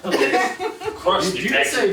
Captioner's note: laughing